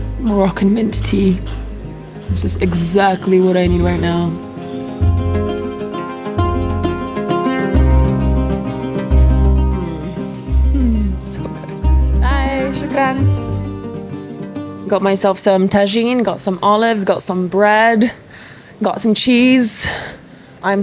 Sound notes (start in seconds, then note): 0.0 soft ethnic music; 4.9 soft ethnic music; 12.7 speaks foreign language